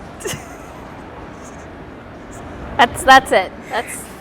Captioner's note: laughs